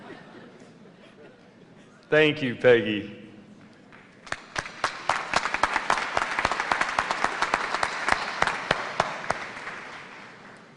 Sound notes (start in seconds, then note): 0.0 laughter; 10.1 applause